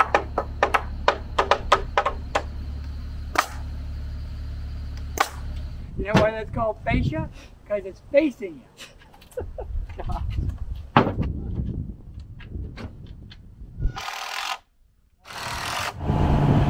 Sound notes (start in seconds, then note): 0.0 both hammers tapping; 5.2 nail gun firing; 8.7 laughing; 15.2 screw gun spinning; 15.2 engine humming